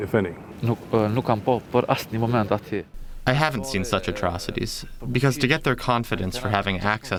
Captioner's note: through translator